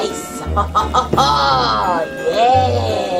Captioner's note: laughs evilly